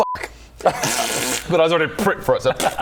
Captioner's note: ppppffft